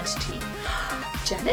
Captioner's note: gasps